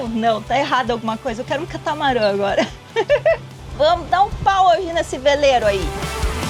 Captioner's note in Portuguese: risadas